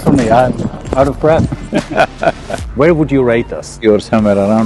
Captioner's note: Sadhguru laughs